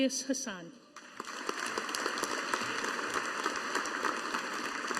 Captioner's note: audience applauding